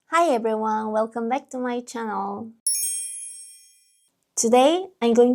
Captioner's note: chime sounds